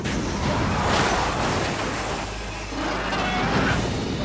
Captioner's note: metals slam